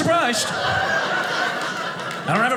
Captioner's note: audience laughing